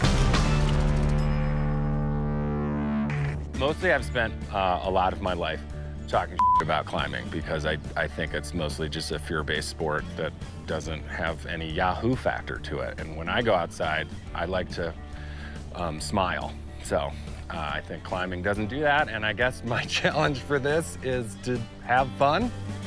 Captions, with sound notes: (upbeat music) Mostly I've spent a lot of my life talking (beep) about climbing because I think it's mostly just a fear-based sport that doesn't have any yahoo factor to it. And when I go outside I like to smile. So I think climbing doesn't do that. And I guess my challenge for this is to have fun.